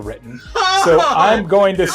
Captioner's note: laughing